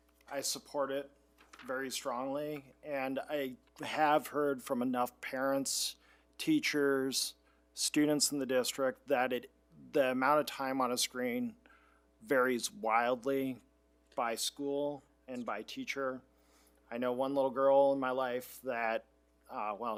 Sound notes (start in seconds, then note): none